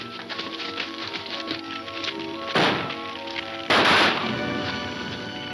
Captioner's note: gunshots banging